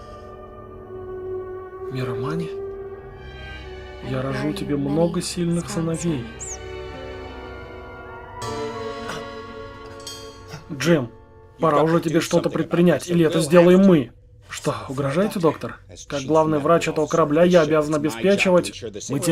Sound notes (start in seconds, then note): 8.4 groans